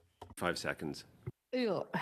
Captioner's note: speaking French